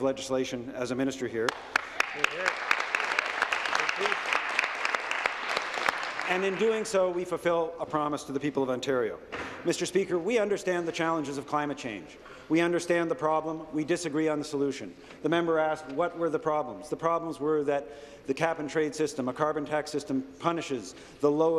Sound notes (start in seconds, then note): 4.8 applause